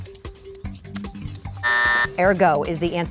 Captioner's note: buzzer sounding